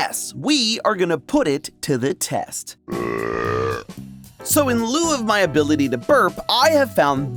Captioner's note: burping